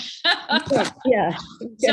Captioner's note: laughs